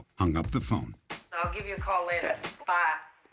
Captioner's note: on phone